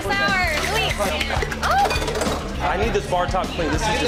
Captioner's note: drink clatters